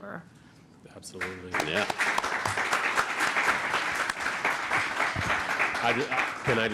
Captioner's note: applause